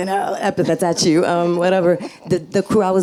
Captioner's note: laughs